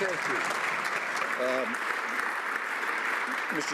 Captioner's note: some Applause